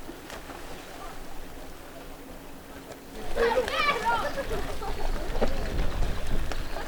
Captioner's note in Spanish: risas y gritos público